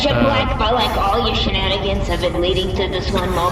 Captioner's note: shouting